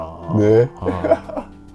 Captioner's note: laughs